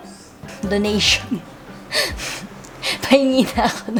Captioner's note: laugh